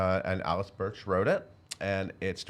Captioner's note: none